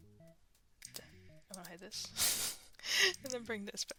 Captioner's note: mouse Clicking Continues; whispering; laughs